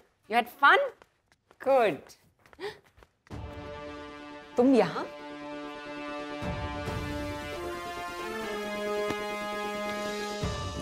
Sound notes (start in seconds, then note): 2.5 Gasps